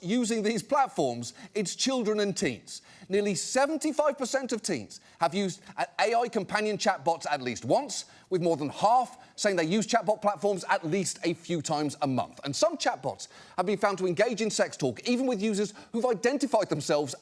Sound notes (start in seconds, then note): none